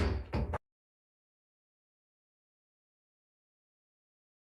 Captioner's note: gavel banging